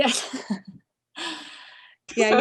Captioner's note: laughs